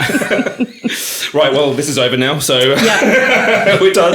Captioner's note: laughing